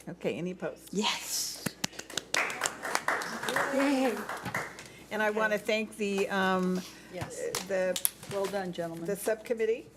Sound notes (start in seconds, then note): 1.6 clapping